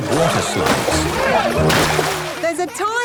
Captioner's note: laughing